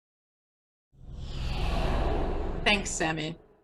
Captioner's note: air whooshing